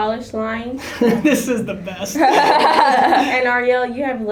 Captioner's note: everyone laughing